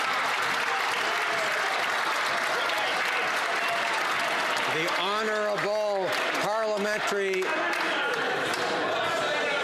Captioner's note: some Applause